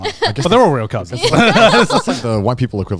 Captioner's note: laughing